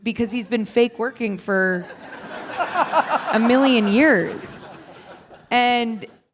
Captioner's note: laughing